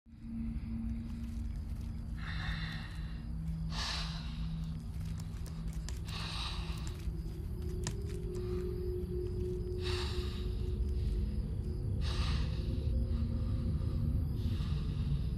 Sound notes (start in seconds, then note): 3.4 heavy breathing; 9.6 breathing continues